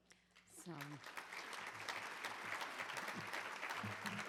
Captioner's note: crowd applauds